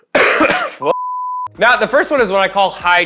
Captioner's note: coughs; beep